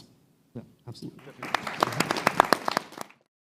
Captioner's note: applause